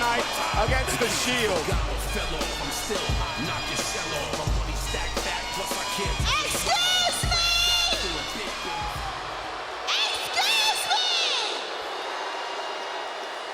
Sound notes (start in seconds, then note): 9.3 crowd boos